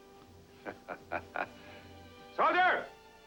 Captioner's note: chuckling